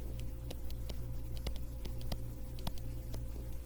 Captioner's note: typing